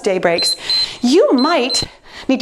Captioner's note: timer beeps